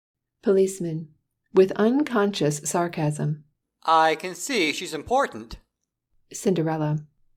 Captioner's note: with unconscious sarcasm